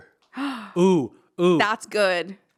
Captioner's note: gasping